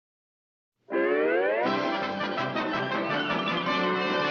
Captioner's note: giggling